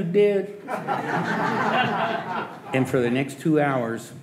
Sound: audience laughing

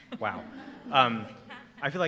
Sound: laughter

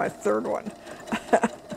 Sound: laughs

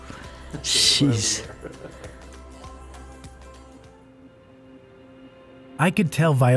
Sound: grandson laughs

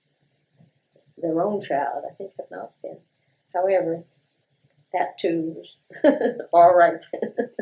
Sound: laughter

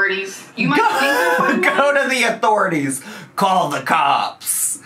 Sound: laughs

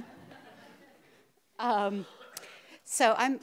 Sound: audience laughs

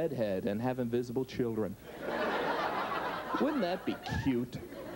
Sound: audience laughs

